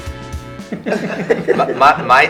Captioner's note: all chuckle